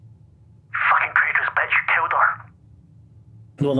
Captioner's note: distort